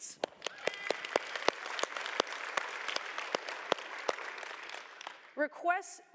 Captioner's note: applause